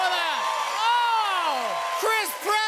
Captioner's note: cheers and applause